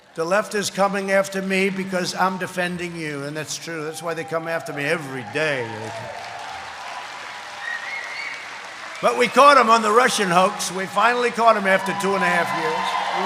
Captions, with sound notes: The left is coming after me because I'm defending you, and that's true. That's why they come after me every day. (applause) But we caught them on the Russian hoax. We finally caught them after two and a half years --